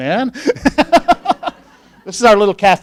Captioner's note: laughing